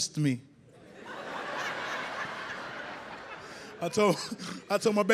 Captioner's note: audience laughs